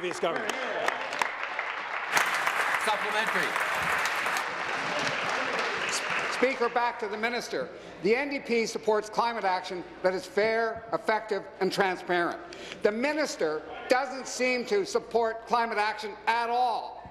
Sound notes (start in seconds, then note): 3.9 applause